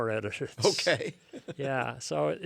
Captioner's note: laughs